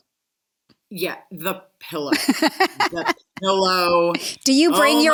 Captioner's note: laughs